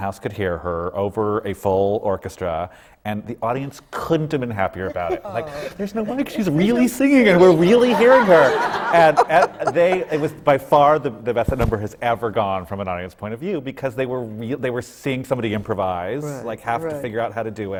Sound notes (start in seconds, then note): 7.4 laughter